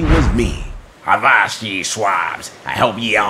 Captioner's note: pirate voice